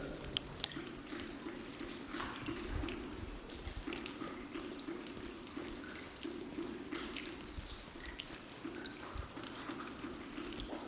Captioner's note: sound of water dripping